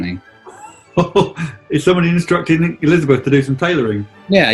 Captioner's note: chortles